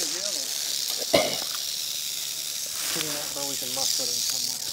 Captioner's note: snake rattling